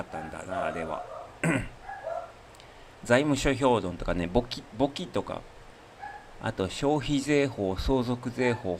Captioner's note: clears throat